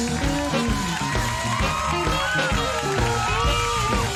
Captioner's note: crowd cheers